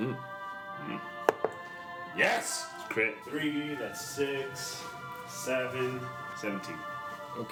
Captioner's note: rolls dice